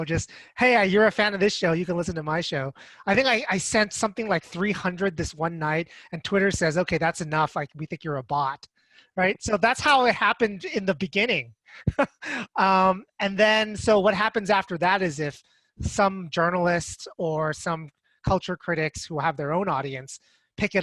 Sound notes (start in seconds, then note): 11.7 giggling